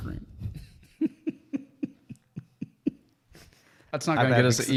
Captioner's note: laughing